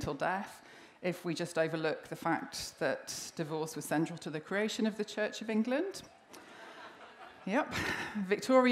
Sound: laughter

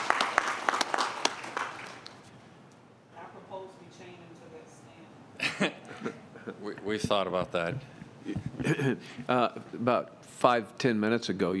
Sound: applause

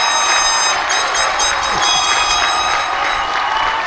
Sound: cheers and applause

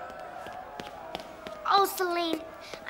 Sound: little footsteps approaching

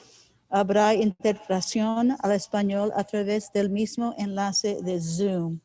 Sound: speaking in foreign language

